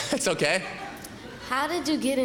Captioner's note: laughter